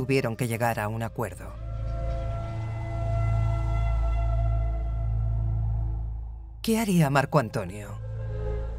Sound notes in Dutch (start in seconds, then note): 1.6 wind fluit